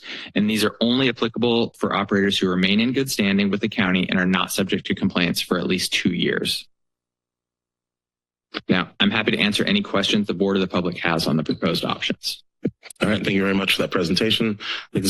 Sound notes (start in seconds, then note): 6.8 pause